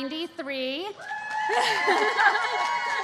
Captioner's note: cheering